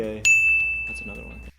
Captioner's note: bell chimes